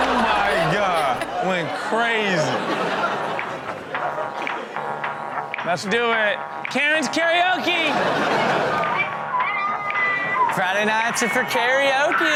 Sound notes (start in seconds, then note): 2.3 co-host and audience laughs; 4.5 upbeat music; 7.6 audience laughs